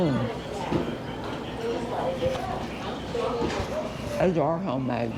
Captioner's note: people chattering